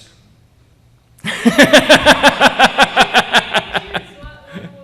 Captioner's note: laughter